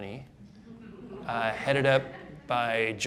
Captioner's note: audience laughing